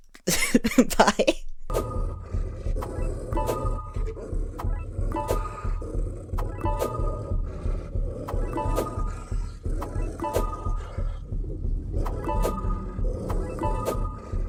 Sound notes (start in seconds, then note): 0.1 laughing; 2.0 spooky dog noises